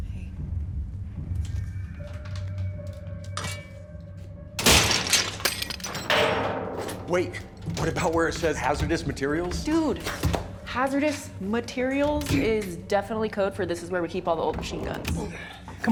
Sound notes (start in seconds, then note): 4.6 metal clatters